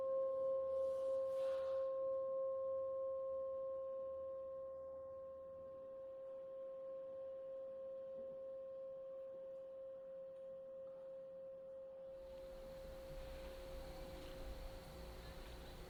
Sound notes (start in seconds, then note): 12.4 insects chirping